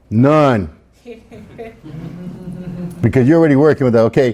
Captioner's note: students laugh